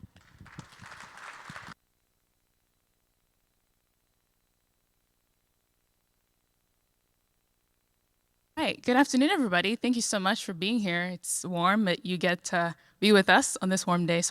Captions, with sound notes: (audience applauds) - Hi, good afternoon everybody. Thank you so much for being here. It's warm, but you get to be with us on this warm day,